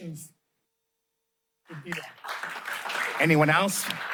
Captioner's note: applause